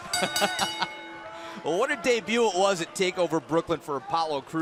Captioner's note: bell ringing